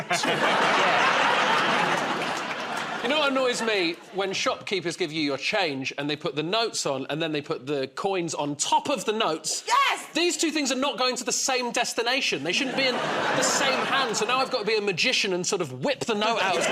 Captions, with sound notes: Yeah. [ Laughter ] -You know what annoys me? When shopkeepers give you your change and they put the notes on, and then they put the coins on top of the notes. -Yes! -These two things are not going to the same destination. They shouldn't be in the same hand. So now I've got to be a magician and sort of whip the note out